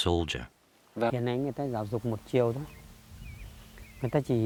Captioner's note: speaking Vietnamese